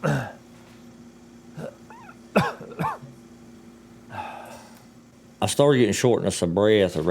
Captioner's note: grunts, coughs